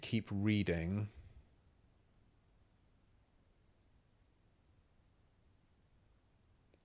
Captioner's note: silence